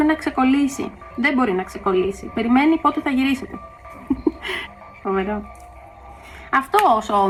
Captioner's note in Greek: γέλια